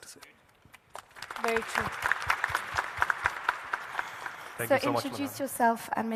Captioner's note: panel applauding